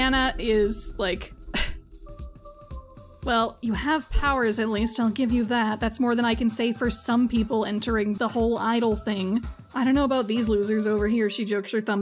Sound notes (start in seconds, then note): 2.1 scoffs